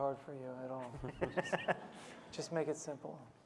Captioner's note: laughing